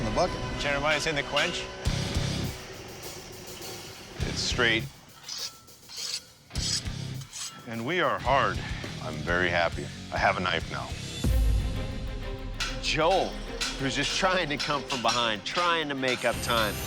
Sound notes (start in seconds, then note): 1.6 rock music; 5.3 metal scraping; 10.8 tense music